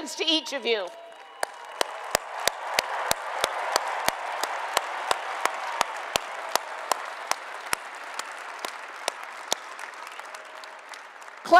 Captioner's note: applause and Cheering